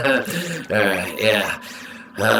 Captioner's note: laughs